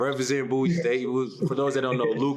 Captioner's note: laughs